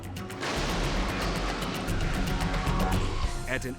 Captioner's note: vehicles thudding